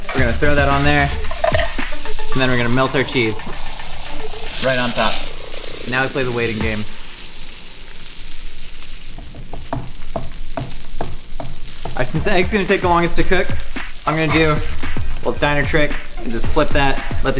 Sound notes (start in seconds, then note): 8.2 burger sizzling; 9.1 drumming fingers